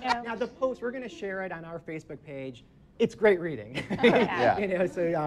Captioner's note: laughs